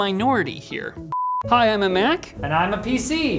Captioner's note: test tone